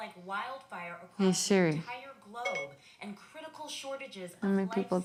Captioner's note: phone beeping